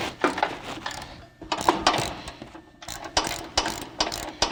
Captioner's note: socket clicking